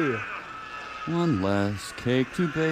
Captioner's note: laughs